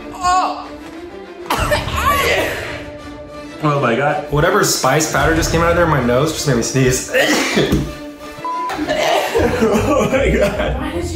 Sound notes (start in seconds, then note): 1.4 coughing; 1.4 coughs; 7.0 sneezes; 8.4 beep; 8.6 coughing